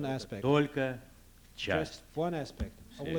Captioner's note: non-english speech